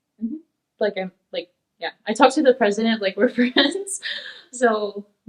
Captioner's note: laughs